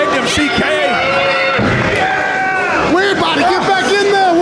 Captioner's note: crowd shouting